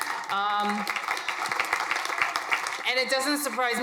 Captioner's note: crowd applauding